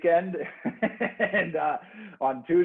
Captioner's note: laughs